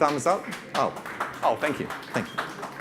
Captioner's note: audience claps